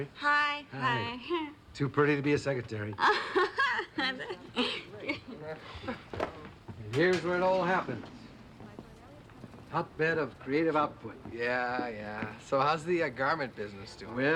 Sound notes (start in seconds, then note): 3.0 Janine laughs awkwardly